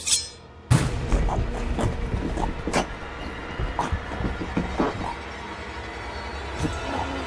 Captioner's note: knife scrapes; tense ominous music; Will gargling